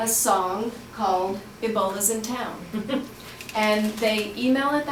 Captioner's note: laughing